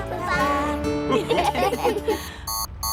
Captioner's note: laughter; beeping